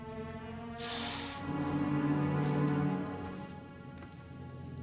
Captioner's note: snake hisses